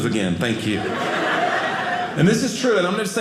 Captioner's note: audience laughing